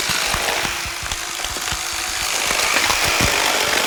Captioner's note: knife whirring on; flesh tearing